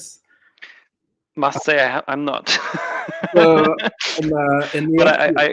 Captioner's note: laughs